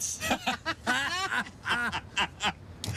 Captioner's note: loud laughing